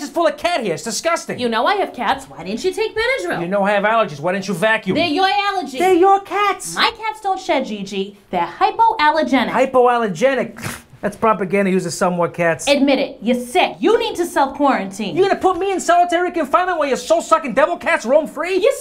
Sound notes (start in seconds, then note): 10.6 snorts